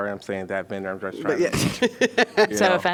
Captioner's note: laughter